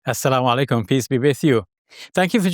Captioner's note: speaking foreign language